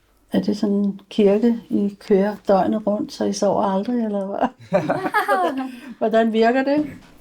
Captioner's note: laughs